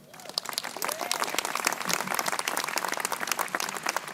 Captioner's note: crowd applauding